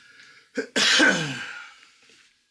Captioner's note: coughing